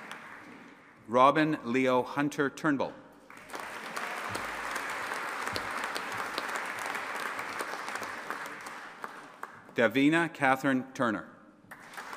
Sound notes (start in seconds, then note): 3.3 audience applauding